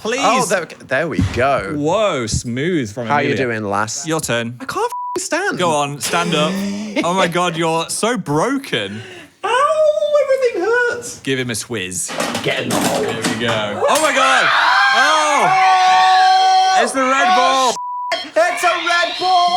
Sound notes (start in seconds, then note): 4.9 beep; 14.3 screaming; 17.7 beep